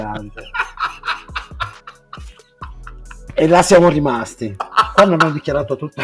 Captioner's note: laughs